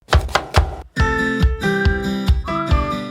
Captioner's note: knife chopping; cheerful music